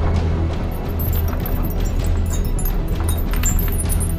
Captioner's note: suspenseful music; chain clanking